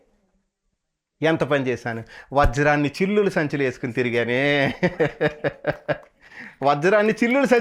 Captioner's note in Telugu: నవ్వు